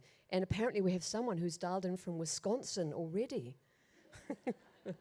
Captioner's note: chuckles